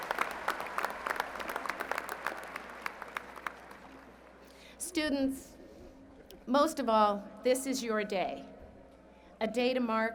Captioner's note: applause